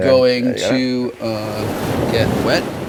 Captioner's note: waves crashing